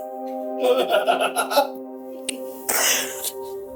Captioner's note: laughter